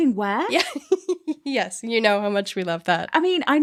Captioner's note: laughs